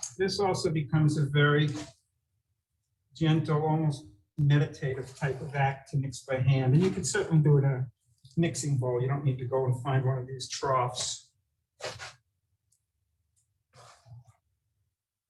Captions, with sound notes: This also becomes a very gentle, almost meditative type of act, to mix by hand. And you can certainly do it in a mixing bowl, you don't need to go and find one of these troughs. (dough scraping)